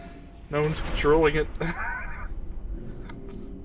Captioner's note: wheeze